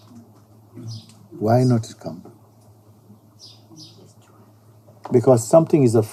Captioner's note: whispering voice in sangha